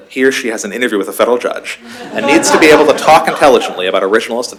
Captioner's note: laughter